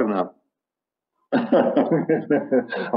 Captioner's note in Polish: śmiech